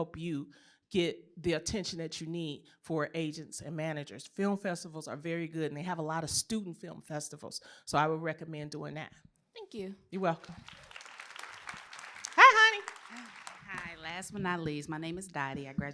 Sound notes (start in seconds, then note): 10.4 applause